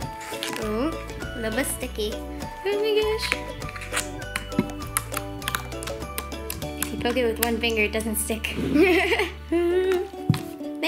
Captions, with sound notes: A little bit sticky. Oh my gosh. (slime crunching) Okay, with one finger it doesn't stick.